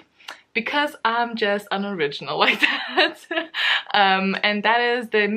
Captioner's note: laughs